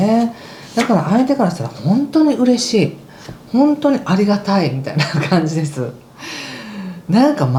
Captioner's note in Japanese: 笑い